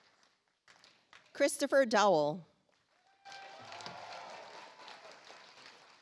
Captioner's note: audience applauds